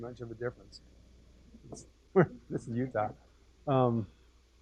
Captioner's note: laugh